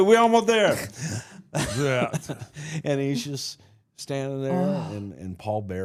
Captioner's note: laughs